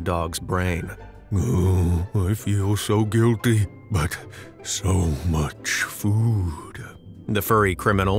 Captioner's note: in dog-like voice